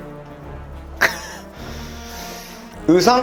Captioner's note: laughing at his own response